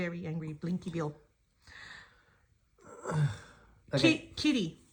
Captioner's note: sigh